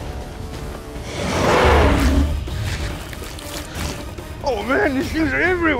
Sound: dinosaur roars

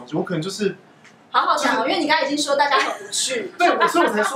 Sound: laughing

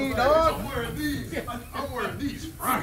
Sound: laugh

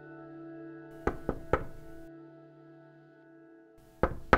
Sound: knocking

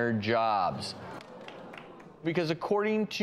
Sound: audience boos

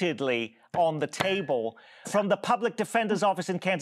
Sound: pounding the table

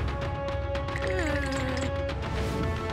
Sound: shivering

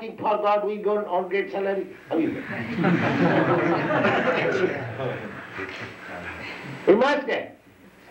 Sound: laughter

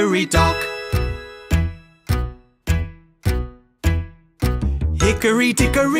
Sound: clock ticking

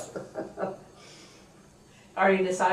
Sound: laughs

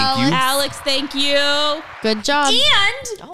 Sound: crowd cheers

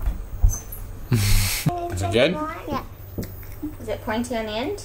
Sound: laughs

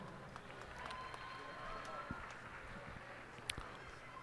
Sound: cheers and applause

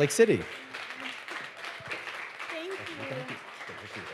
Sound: audience applauding

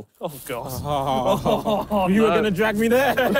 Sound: laughing

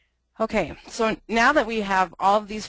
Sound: voiceover

